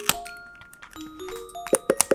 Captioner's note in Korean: 토도도독